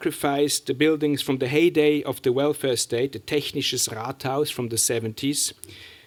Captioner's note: german